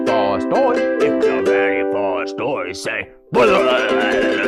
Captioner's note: silly noises